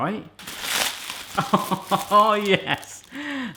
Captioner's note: laughing